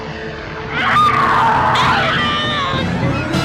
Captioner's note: both scream